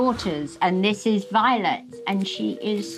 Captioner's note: none